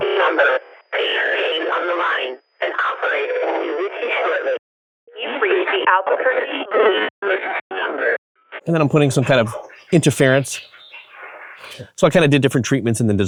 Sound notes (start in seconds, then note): 10.7 telephone line distorts